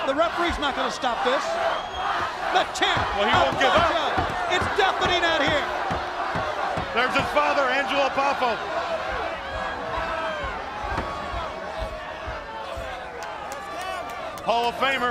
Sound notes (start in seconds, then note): 3.7 crowd cheering